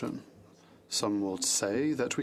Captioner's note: speaking French